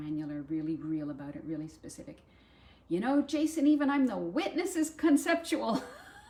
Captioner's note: laughter